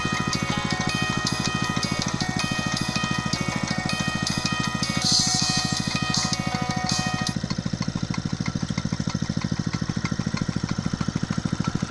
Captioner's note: cheerful music; the sound of the pump running and water landing gently on the plants